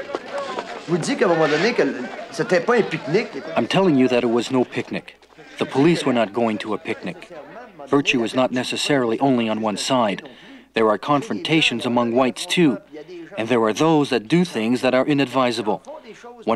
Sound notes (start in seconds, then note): 1.0 speaking in foreign language